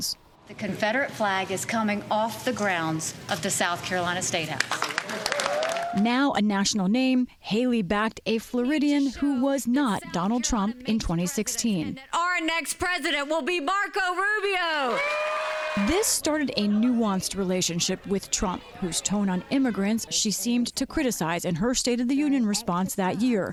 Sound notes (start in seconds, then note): 4.8 cheering and applause; 14.4 cheering and applause